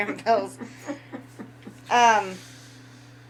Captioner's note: laughing; laughs